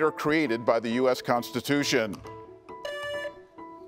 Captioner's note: buzzer beeps